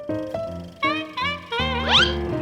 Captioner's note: trumpeting laugh